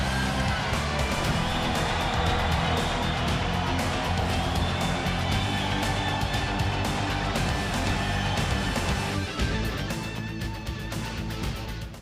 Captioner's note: crowd cheering